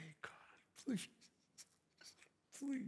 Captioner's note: sobs